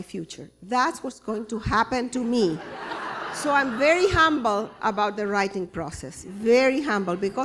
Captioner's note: laughter